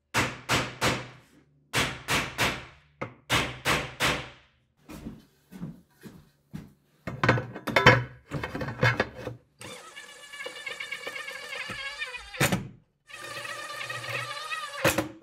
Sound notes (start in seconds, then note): 7.6 metal clanking; 10.2 drill whirring